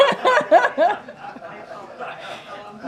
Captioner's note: laughter